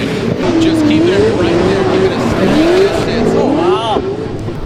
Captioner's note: engine roars